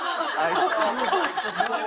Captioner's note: laughter